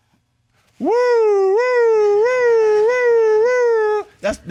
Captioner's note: imitates sirens